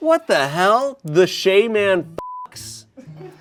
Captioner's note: beep